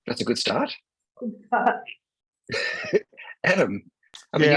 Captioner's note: laughs